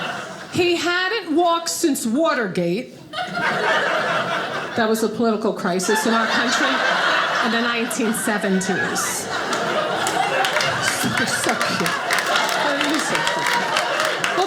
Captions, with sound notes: He hadn't walked since Watergate, (audience laughing) that was a political crisis in our country, in the 1970s. (audience laughing) You're so cute, you're so cute.